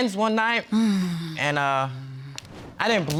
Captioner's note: sighs